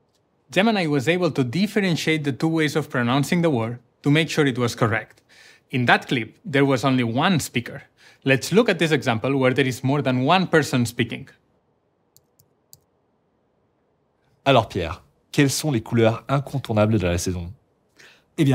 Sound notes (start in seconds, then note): 12.2 keyboard clicking; 14.4 Podcaster 1 speaking in French